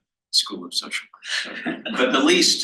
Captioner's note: laughs